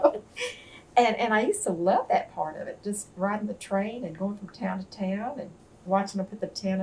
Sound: laughter

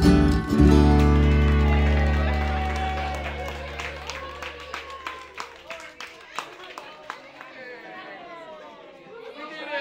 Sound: applause & talking

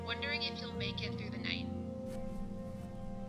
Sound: none

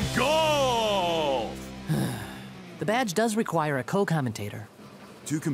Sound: sighs

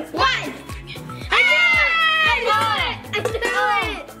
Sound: excited yelling

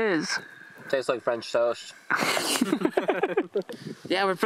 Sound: laughter

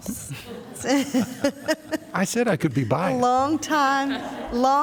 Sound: laughter

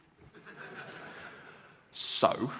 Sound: laughter

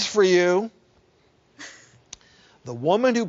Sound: giggles

